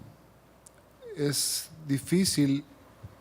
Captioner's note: speaking Spanish